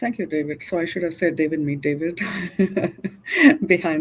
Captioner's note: chuckles